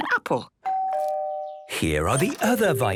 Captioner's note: doorbell rings